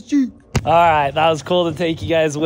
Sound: hand taps

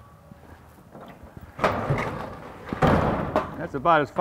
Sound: door opening

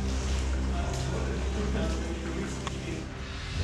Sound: indistinct chatter

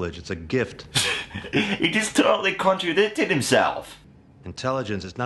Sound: chuckles

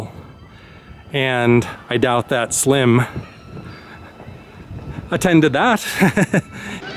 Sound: laughter

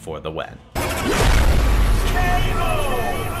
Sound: graphic booming

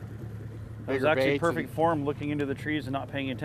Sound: boat engine running

